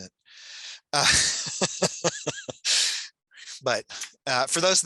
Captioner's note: laughs